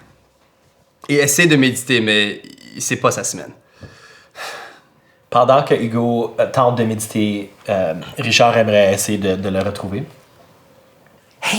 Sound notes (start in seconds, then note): 3.8 sigh